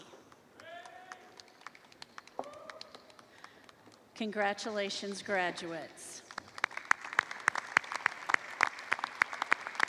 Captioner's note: applause